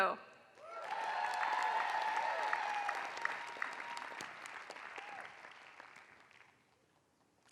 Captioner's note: applause